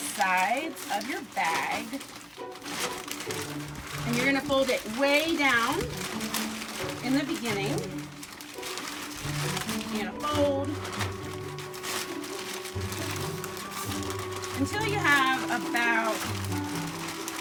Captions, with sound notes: the sides of your bag, (paper crumpling) and you're gonna fold it way down, in the beginning. It can't fold, (paper crumpling) Until you have a barrel,